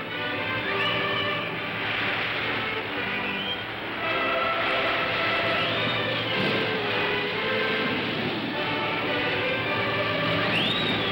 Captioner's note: music plays; waves crashing